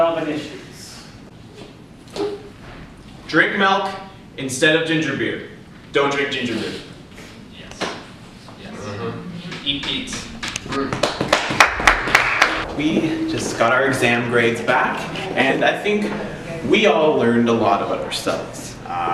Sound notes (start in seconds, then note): 7.5 hums of approval and clapping